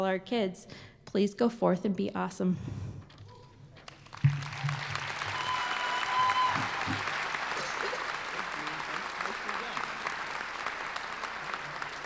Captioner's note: applause